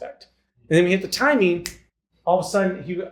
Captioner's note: snaps